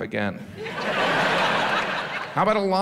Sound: audience laughs

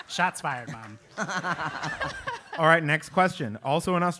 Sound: laugh

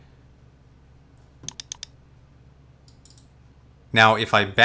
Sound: mouse clicks

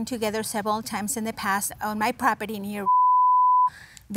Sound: beep

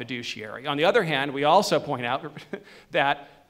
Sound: chuckles

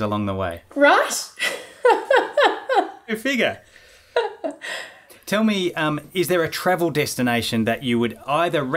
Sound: laughing

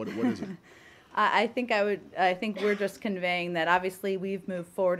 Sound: laughter

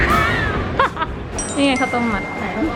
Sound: both laughing

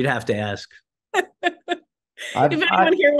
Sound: laughs

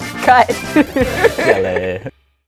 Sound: laughs

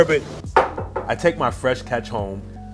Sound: door knock

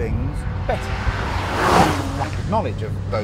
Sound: VROOOOMMMMMMmmmmmm

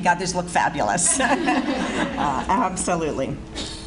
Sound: audience Laughs

